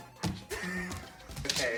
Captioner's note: wheeze